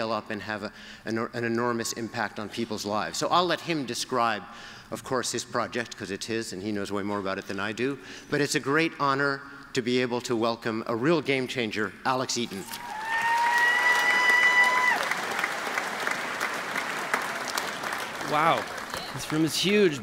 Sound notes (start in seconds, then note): 12.8 applause